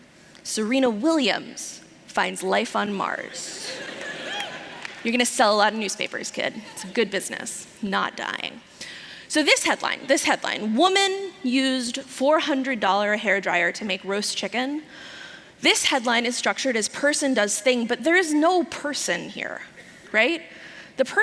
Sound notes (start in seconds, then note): 3.4 laughter